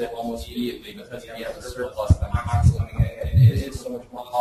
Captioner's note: distorted speech